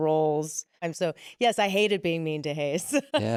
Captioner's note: laughs